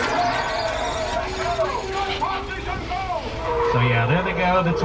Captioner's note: villagers shouting